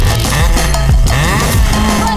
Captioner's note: engine revving